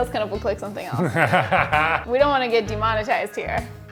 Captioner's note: laughing